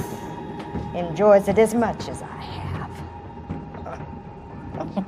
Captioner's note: laughs